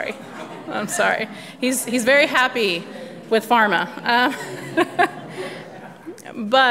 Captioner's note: laughs